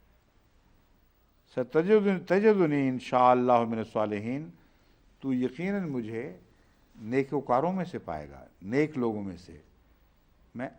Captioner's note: Arabic